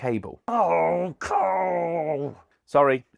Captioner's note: grumbling